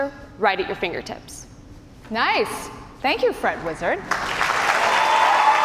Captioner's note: cheers and applause